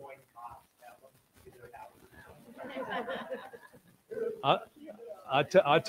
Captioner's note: audience laughing